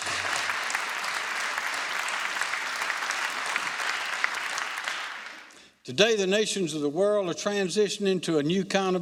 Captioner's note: applause